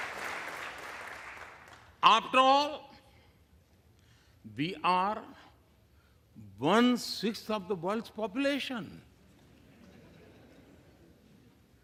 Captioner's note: applause